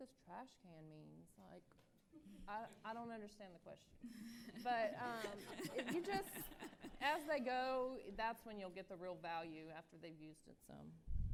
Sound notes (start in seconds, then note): 4.1 laughter